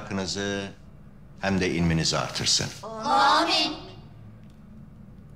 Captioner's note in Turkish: Hep bir ağızdan